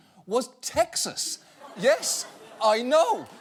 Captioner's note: audience laughing